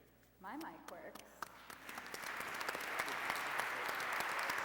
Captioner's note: applause